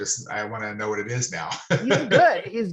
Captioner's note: laughing